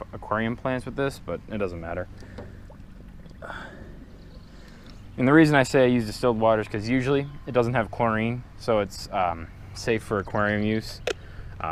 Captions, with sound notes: aquarium plants with this, but it doesn't matter. *exhale* And the reason I say I use distilled water because usually it doesn't have chlorine, so it's safe for aquarium use.